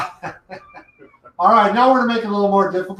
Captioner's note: laughs